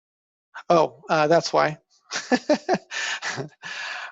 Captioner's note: laughing